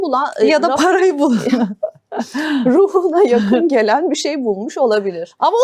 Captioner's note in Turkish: kahkaha